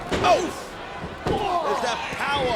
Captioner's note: Kurt groans